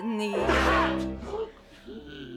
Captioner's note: gasps